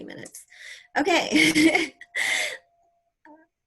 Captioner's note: laughter